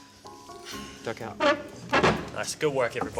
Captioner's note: chair scraping